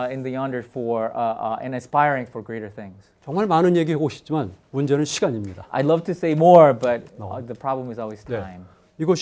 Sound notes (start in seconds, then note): 3.4 speaking in Korean